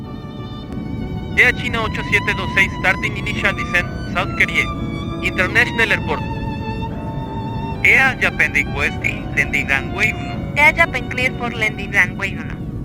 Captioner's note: speaking Spanish